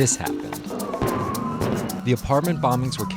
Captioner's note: explosion